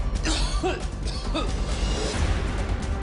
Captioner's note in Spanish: El Chema tose